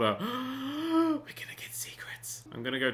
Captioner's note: gasps; whispers